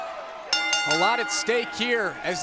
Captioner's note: bell ringing